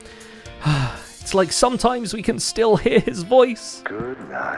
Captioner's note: wistful sigh